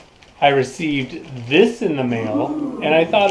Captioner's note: people saying, "ooh"